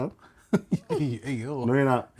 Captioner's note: laughing